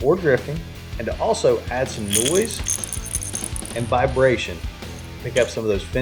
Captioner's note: bait rattles